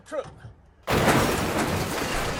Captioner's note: big crash